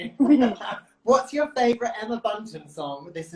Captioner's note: chuckles; laughs